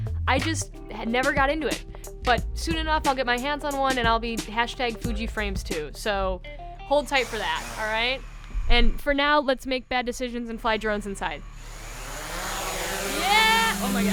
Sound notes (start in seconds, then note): 11.5 drone buzzing